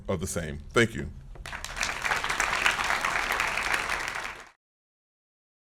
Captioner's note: applause